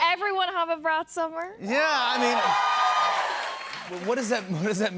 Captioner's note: cheers and applause